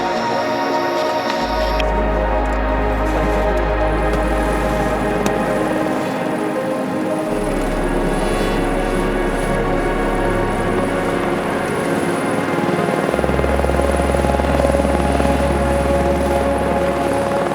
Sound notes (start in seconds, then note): 6.1 helicopter whirs; 8.9 gentle music continues; 14.2 helicopter whirs